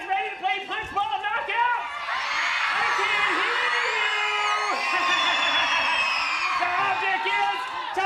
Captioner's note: cheering